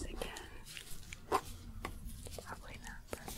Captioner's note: scraping